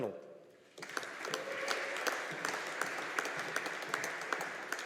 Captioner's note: audience applauding